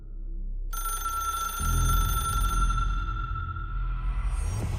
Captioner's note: phone rings